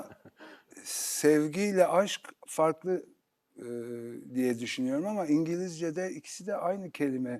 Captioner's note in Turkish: homurdanır